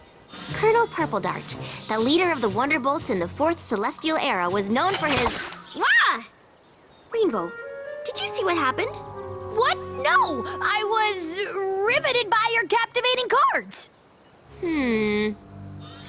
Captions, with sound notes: Colonel Purple Dart, the leader of the Wonderbolts in the 4th Celestial Era was known for his... (splat) Wha? Rainbow, did you see what happened? What? No! I was riveted by your captivating cards. Hmmmm.